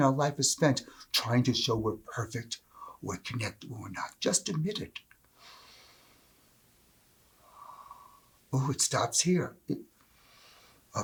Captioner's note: breath